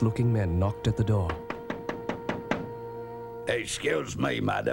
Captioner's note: knocking